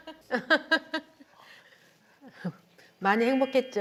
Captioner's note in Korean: 가진 자의 웃음